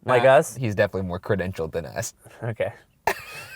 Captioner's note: voiceover